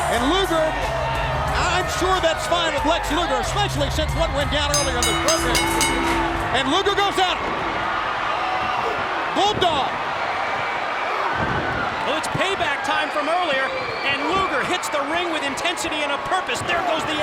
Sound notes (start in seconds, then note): 6.7 bell ringing